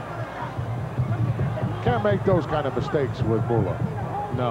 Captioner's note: none